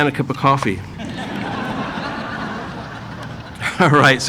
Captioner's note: audience laughing